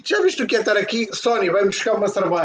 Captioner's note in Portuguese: Falando o português falso